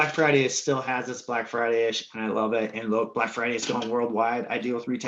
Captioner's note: murmurs